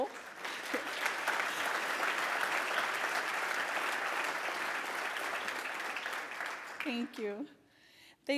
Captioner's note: applause